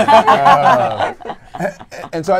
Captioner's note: laughter